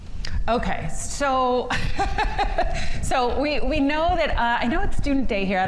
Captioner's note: chuckles